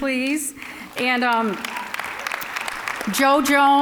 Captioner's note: applause